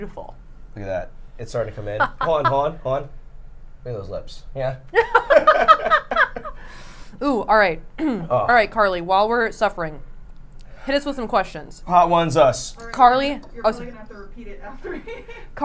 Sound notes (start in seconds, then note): 4.9 both laughing